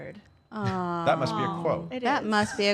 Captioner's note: awwing